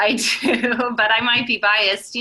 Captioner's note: laughing